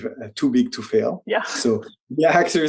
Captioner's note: chuckles